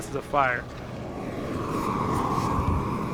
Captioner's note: extingusher spraying a fire